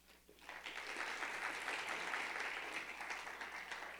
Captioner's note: crowd clapping